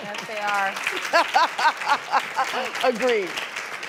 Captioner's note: applause and laughter